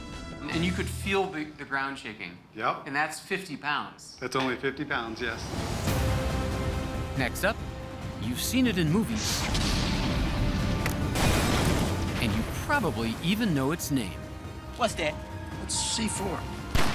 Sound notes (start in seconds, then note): 9.3 explosions